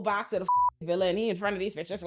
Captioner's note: beep